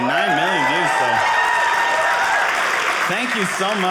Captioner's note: audience applauding